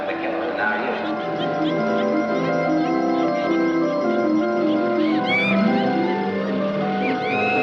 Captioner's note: animatronic laughing